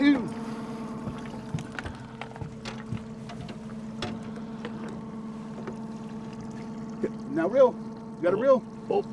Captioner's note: boat engine idling